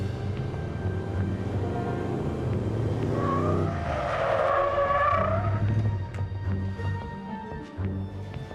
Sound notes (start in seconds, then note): 2.6 tires screech